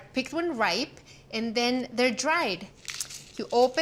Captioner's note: crunches